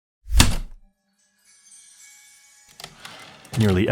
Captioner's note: heavy typewriter keystroke, light chimes, return slide